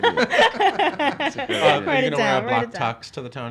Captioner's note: laughs